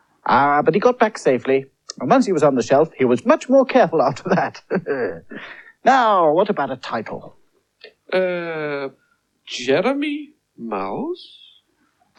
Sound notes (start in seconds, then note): 4.1 chuckles